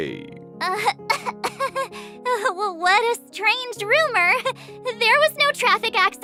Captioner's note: cough